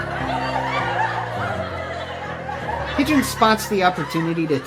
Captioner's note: audience laughs